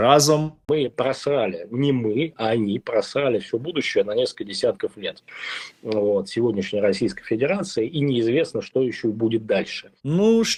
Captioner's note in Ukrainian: сопіння